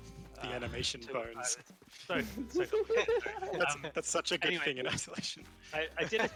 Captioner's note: laughter